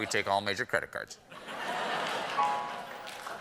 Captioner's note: laughter